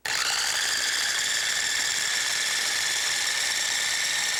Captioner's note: blender squealing